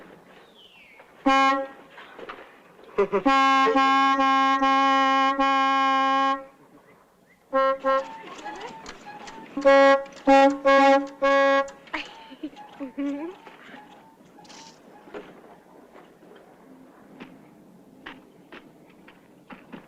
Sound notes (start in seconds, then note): 1.2 honking - giggle; 3.1 honking; 11.8 laugh